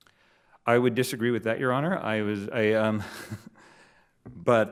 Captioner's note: chuckles